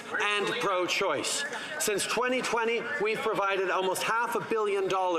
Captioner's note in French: voix de l'interprète